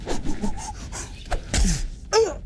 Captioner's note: whooshing; wizard grunts